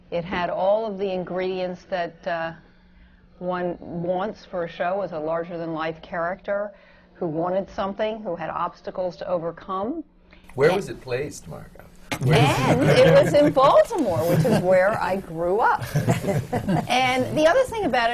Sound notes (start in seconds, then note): 12.1 laughter from the panel